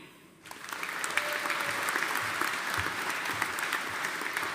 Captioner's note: audience applauding